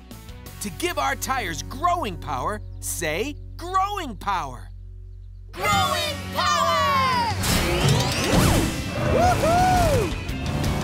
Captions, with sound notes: To give our tires growing power, say "growing power". Growing power! [cheering]